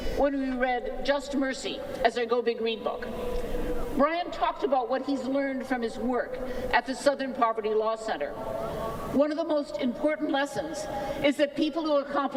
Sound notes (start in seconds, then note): none